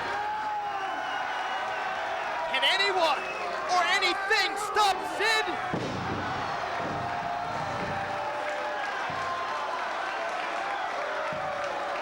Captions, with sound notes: Yeah! (crowd cheers) Can anyone or anything stop Sid?